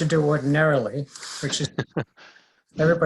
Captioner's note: laughing